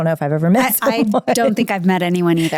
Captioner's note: laughing